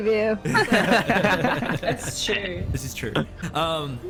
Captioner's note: more giggles